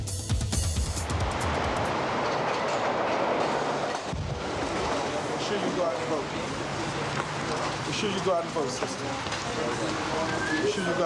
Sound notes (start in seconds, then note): 1.6 traffic and train moving